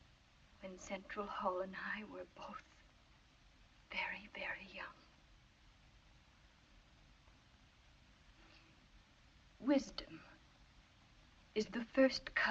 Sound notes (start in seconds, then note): none